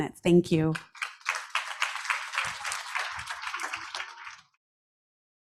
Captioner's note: audience applauds